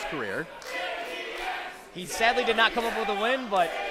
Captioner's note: crowd